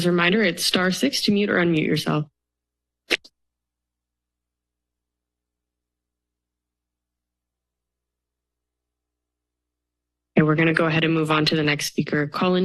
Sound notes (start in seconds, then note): 2.8 silence